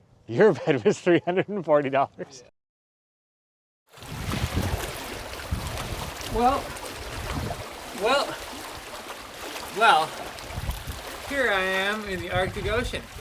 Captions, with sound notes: Your bed was $340. [water splashing] Well... Well... Well, here I am in the Arctic Ocean.